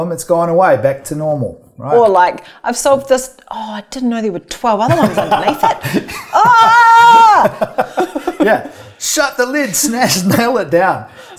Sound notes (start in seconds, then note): 4.9 laughs; 6.2 screams